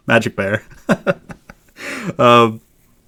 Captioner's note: laughs